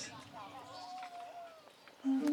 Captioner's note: village sounds